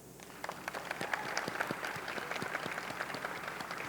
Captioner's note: audience clapping